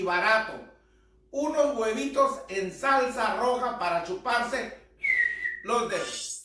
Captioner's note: whistles